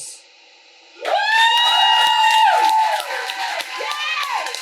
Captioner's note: audience cheers and applauds